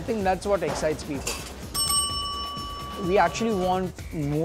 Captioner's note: bell dinging